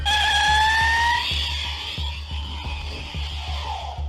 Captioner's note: tires screeching